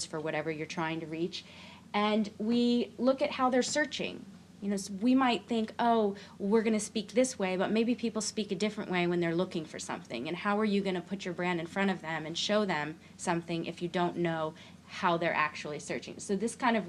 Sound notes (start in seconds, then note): none